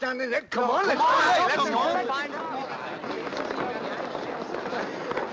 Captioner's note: people chattering